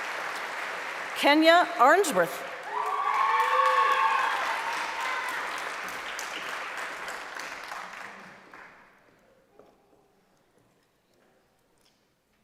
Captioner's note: applause; screaming; cheering